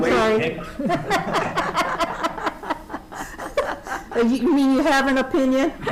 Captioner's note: members laughing